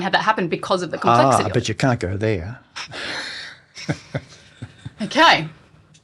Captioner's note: chuckles